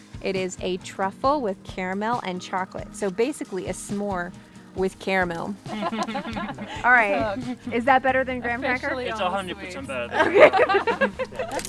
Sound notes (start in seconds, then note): 5.7 laughs